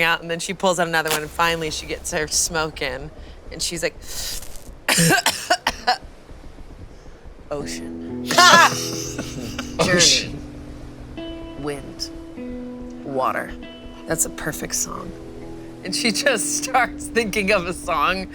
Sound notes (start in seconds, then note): 4.8 coughs; 7.4 calm music; 8.2 all laugh